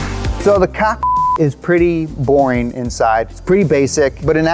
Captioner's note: upbeat music; beep